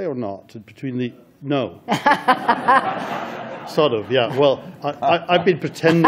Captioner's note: audience laughter